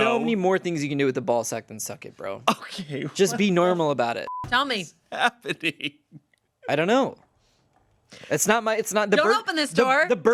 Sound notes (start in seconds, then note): 4.2 beep